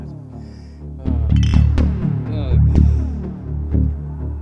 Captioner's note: suspenseful electronic music; bottles clink